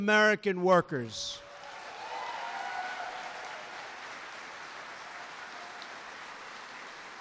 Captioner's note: applause